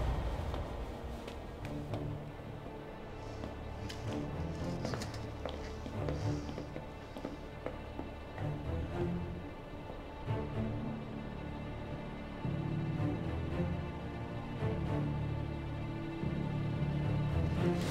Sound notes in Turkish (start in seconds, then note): 4.8 Müzik - Gerilim; 5.4 Nefes sesi